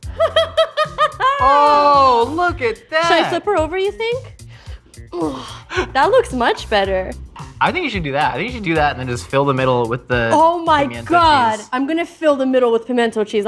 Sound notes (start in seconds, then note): 0.0 laughing; 4.9 groaning